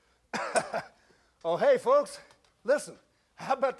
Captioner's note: chuckles